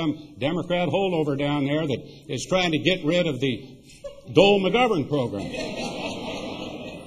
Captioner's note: laughter